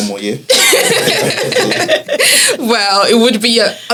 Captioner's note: laughs